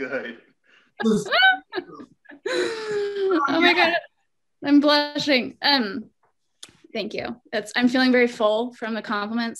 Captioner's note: laughs